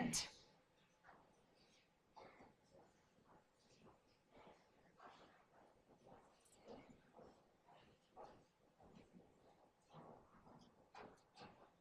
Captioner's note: silence